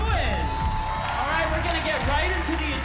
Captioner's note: cheering